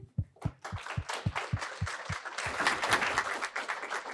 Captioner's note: audience applauding